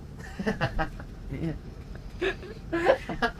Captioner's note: laughing